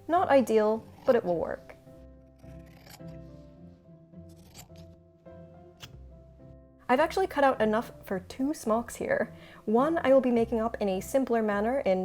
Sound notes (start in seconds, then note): 2.0 gentle music; 2.4 scissors snipping